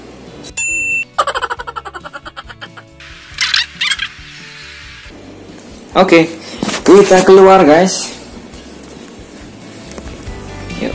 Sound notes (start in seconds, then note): 1.2 laughs